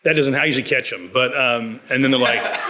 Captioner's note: audience laughs